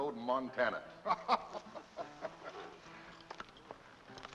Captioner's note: laughter